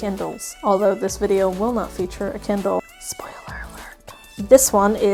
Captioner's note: whispers